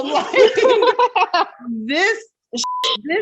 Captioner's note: laughing